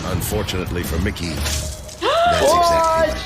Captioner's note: wet squelching; gasps